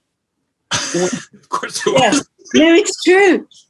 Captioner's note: laughs